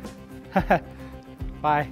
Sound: laughs

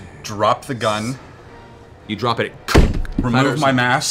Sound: impact sound

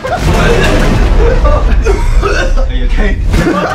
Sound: laughs; intense music; coughing

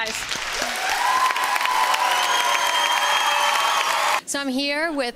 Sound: applause

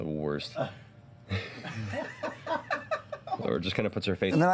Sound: group laughter

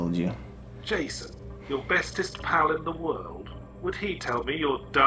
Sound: voiceover

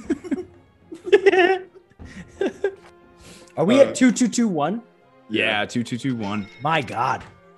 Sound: laugh

